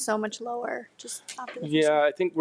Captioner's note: speaks faintly